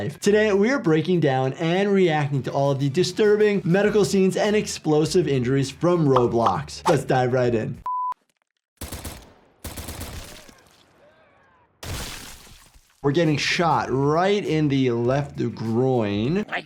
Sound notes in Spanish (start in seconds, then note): 7.8 pitido; 8.8 disparos de pistola